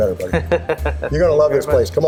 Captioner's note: chuckles